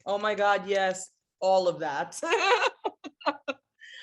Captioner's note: laughs